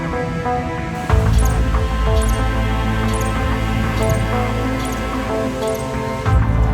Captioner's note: ground squirrel squeaking